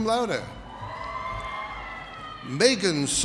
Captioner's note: audience cheers